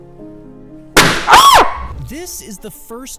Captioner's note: gentle music; balloon pops; ballon pops; screams